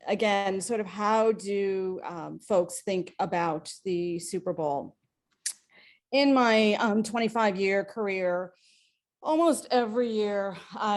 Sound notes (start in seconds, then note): none